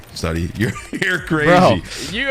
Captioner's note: chuckles